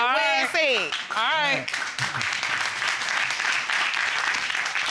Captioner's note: crowd clapping